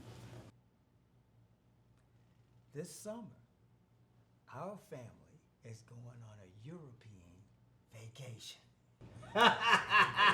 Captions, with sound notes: - This summer, our family is going on a European vacation. (laughing)